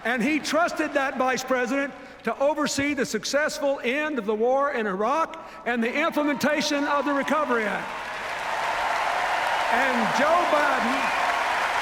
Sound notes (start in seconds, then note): 8.0 cheers, applause